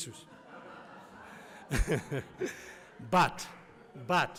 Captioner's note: audience laughs